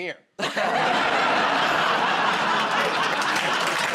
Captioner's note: laughter; applause